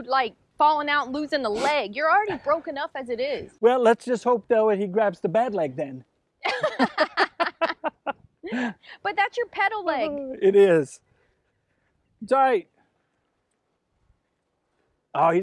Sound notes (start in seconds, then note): 6.4 laughing